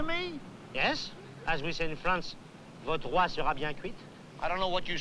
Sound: speaking french

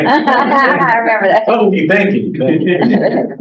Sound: laughs

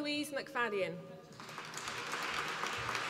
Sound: applause

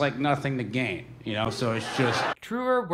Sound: audience laughing

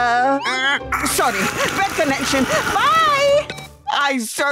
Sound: Sergio making static noises

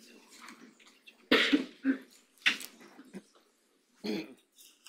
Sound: audience chattering faintly

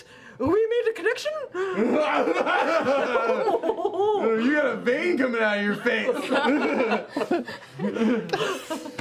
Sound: loudly laughs; laughter

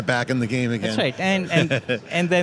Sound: laughter

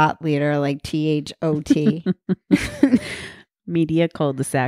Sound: laughing

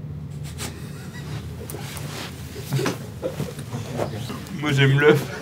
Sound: laughs

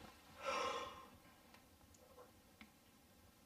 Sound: rustling sound; yawns

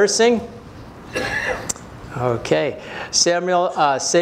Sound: cough

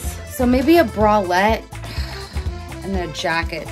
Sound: heavily sighs

